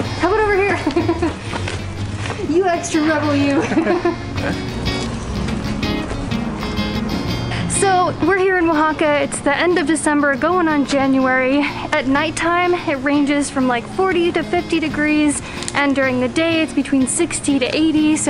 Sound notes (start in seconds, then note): 0.6 laughs; 3.5 both laughing; 4.5 cheerful music